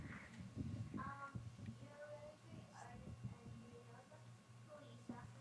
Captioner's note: girl speaking faintly